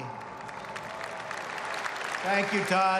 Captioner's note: applause